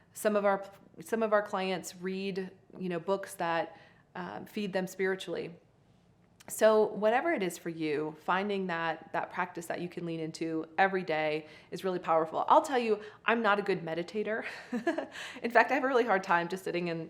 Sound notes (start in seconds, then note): 14.5 host chuckling